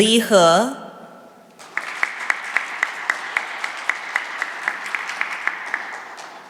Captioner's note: applause